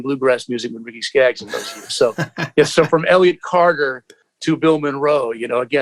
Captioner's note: laughter